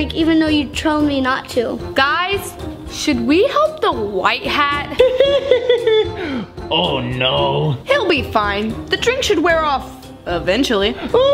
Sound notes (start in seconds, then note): 4.9 laughs